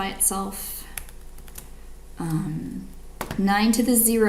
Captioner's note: keyboard clicks